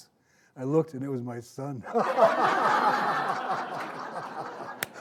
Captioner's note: all laughing